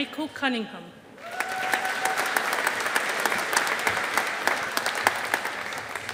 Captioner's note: audience applauding